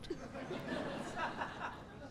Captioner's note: laughter